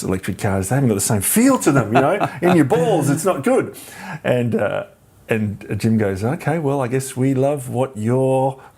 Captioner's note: laughs